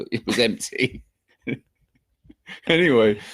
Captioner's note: both chuckling